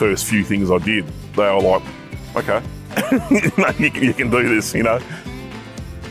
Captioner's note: laughs